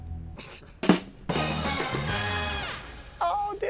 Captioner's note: laughs